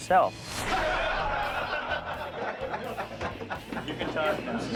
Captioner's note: men laughing